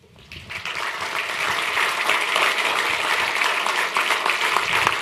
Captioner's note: applause